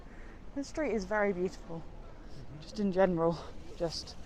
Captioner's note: mumbles in agreement